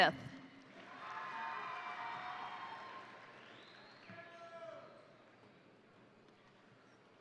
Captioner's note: crowd applauding; crowd cheering